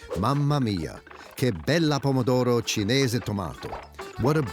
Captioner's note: speaking in foreign language